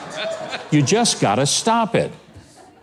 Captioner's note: crowd laughs